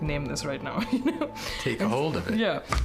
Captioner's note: laughter